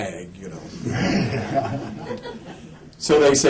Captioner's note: laughter